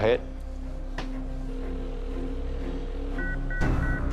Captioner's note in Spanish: Tono de línea ocupada